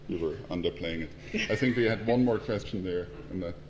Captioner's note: laugh